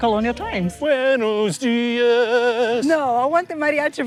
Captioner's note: in Spanish